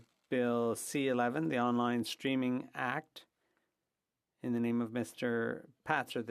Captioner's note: speaking french